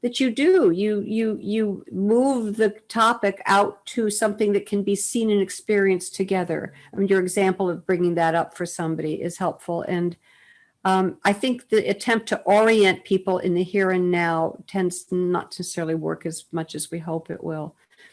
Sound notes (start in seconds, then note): none